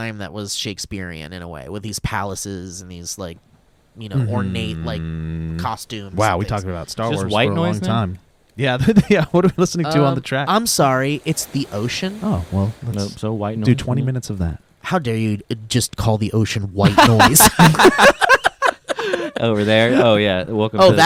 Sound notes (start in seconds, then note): 16.8 laughing